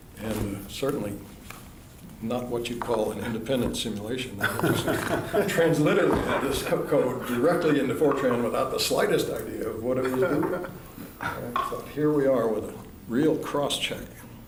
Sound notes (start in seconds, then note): 4.4 laughter